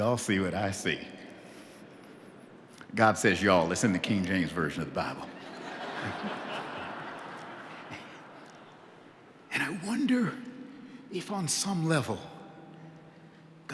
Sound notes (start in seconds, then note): 8.0 laughter